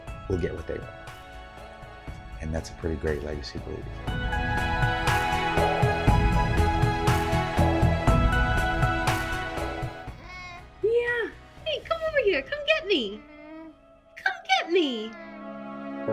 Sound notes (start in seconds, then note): 6.1 music crescendo; 10.5 cooing